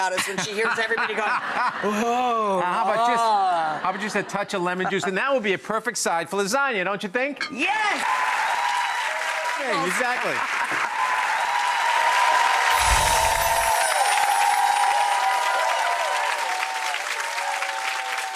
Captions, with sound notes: when she hears everybody going, oh, ah! I'm just gonna add a touch of lemon juice, and that will be a perfect side for lasagna, don't you think? Yes! (audience clapping) All right! Look at that! Not one, but two dishes! (audience cheering) (chimes tinkling)